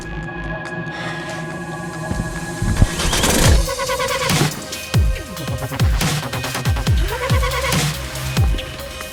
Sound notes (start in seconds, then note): 3.0 upbeat techno music; 3.3 engine rumbling